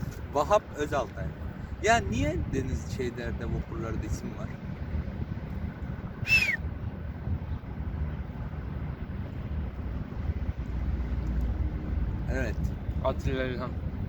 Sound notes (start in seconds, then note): 6.2 whistling